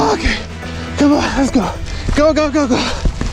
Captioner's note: grunts